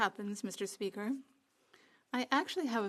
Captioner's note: speaking French